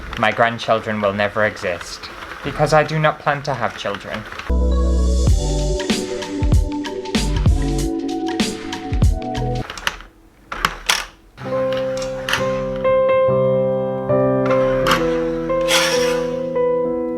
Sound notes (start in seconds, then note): 9.7 breaking Sounds; 11.4 sad Music